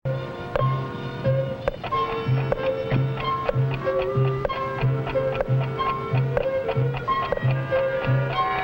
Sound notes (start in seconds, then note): 0.2 light music; 3.8 clock ticking